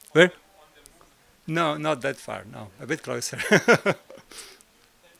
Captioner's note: laught